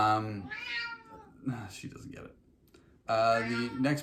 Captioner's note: cat meows